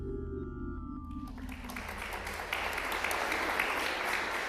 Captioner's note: applause